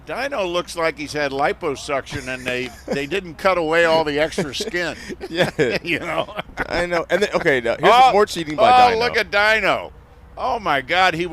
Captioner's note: laughter